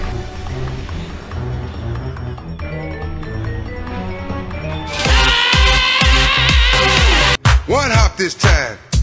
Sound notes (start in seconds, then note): 4.9 flaahgra screaming like the song "big enough"